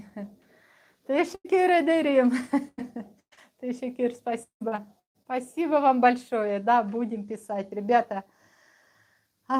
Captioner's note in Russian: смех